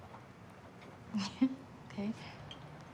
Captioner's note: laughs